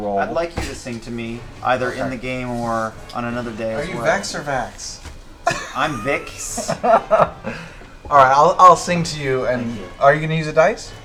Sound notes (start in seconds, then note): 5.4 laughs